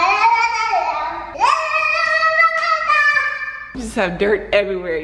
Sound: babbling; shouting

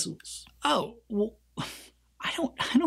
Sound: sighs

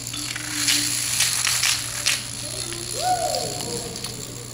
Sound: someone Screams Woo

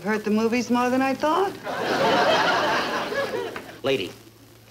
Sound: audience laughing

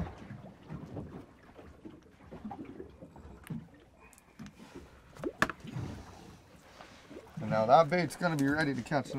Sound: water sloshing

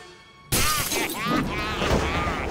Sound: smash; evil laugh

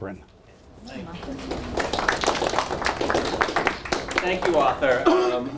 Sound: audience applause

